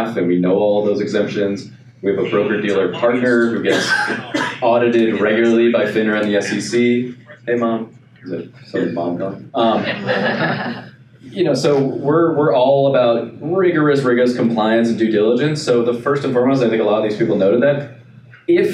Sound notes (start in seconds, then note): 7.4 phone talking; 9.6 laughing